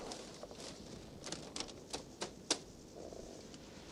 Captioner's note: rustle